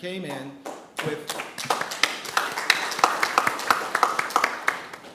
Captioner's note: attendees clapping